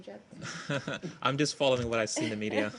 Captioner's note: laughter